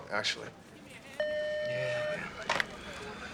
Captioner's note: phone beeps